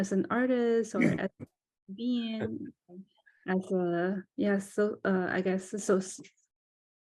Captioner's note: laughs